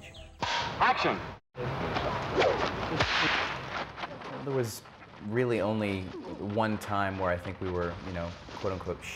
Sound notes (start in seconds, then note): 0.4 voiceover; 2.2 whip cracking